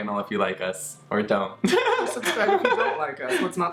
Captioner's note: laughs